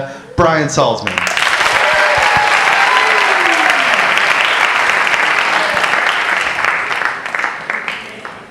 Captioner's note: applause